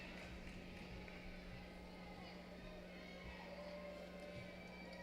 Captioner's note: cheering